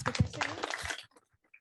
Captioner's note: applause